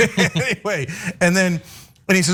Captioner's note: laugh